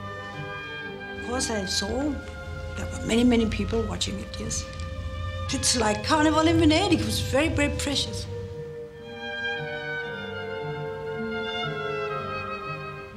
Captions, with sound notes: Of course I saw there were many, many watching it. Yes. It's like (speaks foreign language), it was very, very precious.